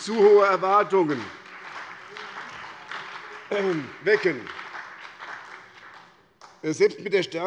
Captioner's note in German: Beifall bei der SPD